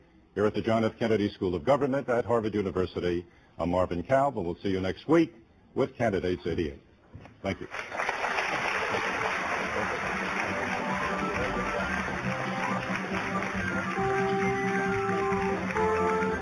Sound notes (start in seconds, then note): 8.0 applause